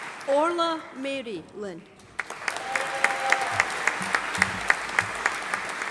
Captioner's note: audience applauding